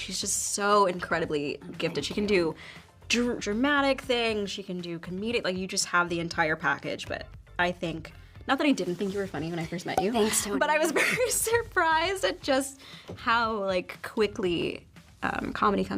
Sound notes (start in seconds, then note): 9.9 graphics pop